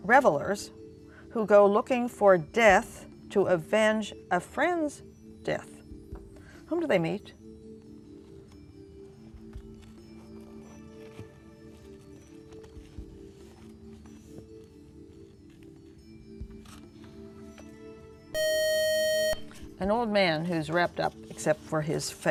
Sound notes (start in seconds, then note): 18.3 buzzer